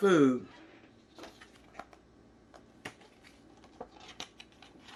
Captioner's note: pages turning